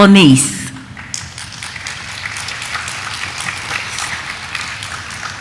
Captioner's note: audience applauding